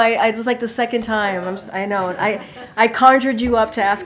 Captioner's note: laughter